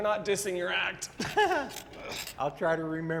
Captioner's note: Blue laughs